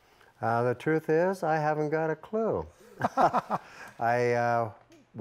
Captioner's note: laughing